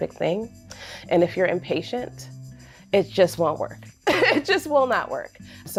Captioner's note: chuckles